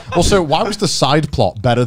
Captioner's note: none